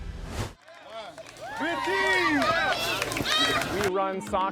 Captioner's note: cheers and applause